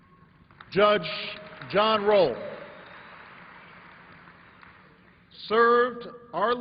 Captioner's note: applause